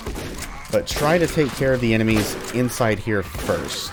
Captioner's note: shotgun continues